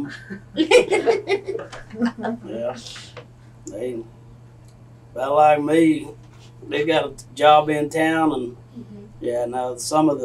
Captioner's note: laughter